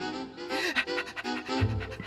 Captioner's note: panting